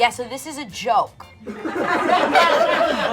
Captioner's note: laughter